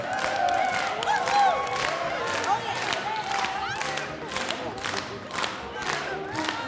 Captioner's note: choir and audience clapping and cheering